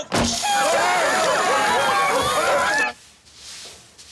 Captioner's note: everyone cheering